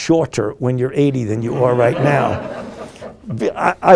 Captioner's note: group laughing